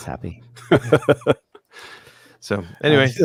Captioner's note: laughter